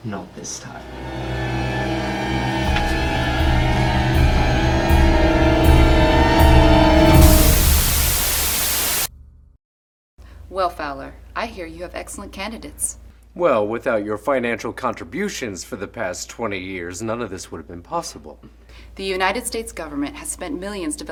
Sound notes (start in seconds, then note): 0.4 dramatic music; 7.5 static crackling